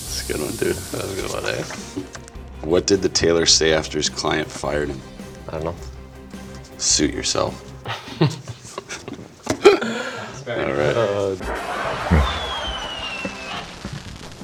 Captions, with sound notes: - That's a good one, dude. - That was a good one, eh? - What did the tailor see after his client fired him? - I don't know. - Suit yourself. (laughing)